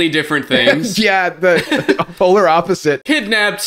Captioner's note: laughs